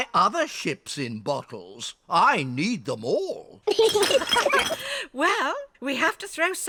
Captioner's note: all laugh